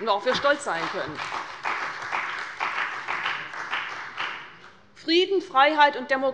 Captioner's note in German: Beifall bei der CDU und dem BÜNDNIS 90/DIE GRÜNEN